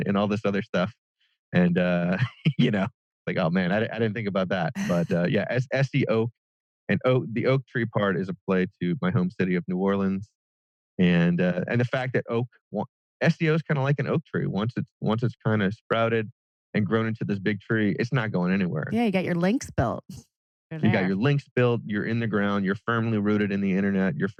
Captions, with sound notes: this other stuff. And like, "Oh man, I didn't think about that." (laughs) But yeah, as SEOak and the oak tree part is a play to my home city of New Orleans. And the fact that oak SEO is kind of like an oak tree. Once it's kind of sprouted and grown into this big tree, it's not going anywhere. Yeah. You got your links built. You got your links built, you're in the ground, you're firmly rooted on the internet, you're